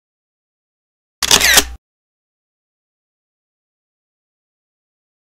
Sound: camera shutters

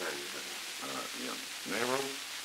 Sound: Murrow, mumbling

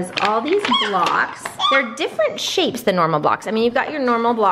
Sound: baby shouting

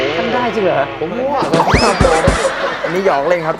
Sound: laughter

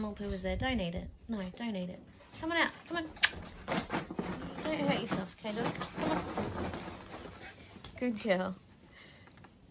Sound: makes kissie noise

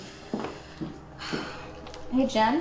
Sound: sigh

